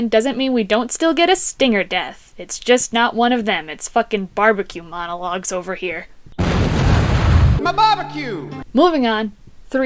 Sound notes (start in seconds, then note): 6.3 explosion